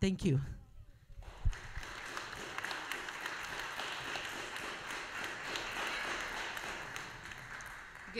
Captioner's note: applause